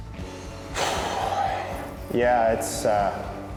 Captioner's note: sighs